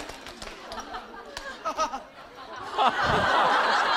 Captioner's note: haha